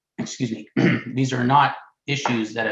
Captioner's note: clearing throat